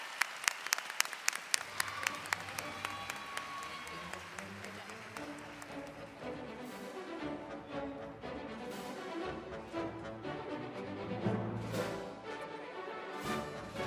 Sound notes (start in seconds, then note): 0.0 cheering and applause